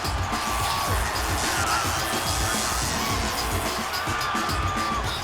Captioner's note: electricity crackles